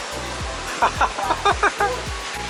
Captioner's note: laughter